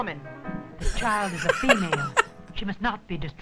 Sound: laughs

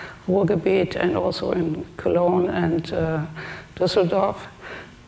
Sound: speaks German

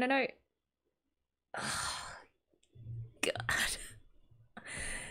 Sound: sigh

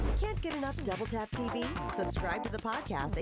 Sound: voiceover

